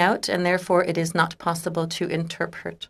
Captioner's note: speaking French